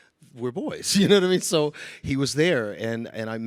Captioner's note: chuckling